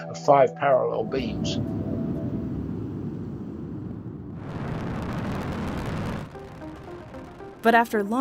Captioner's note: rocket launching